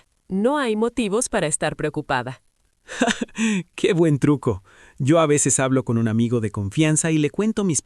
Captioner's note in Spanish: risas